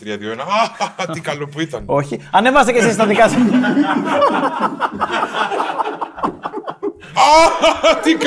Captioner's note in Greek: γέλια